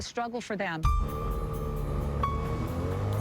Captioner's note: boat engine revving